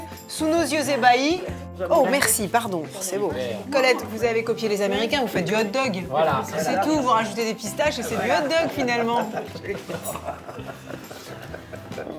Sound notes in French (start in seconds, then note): 8.2 rires